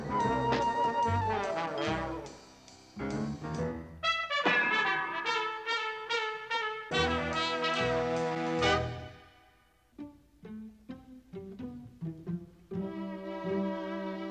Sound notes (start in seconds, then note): 4.4 clang